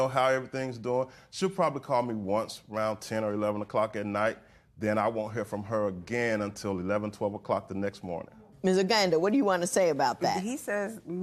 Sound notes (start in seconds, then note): none